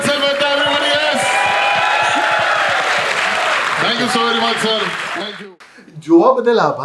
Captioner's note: crowd applauding